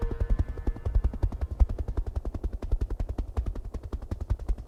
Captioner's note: helicopter sounds